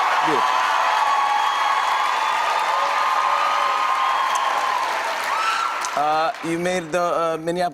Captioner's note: cheers and applause continue